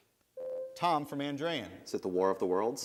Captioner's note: bell rings